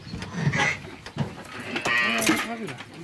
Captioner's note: bleating